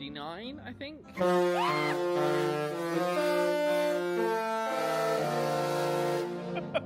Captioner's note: screams